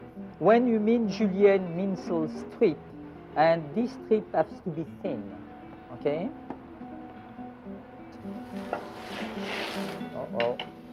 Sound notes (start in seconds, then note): 8.0 sizzling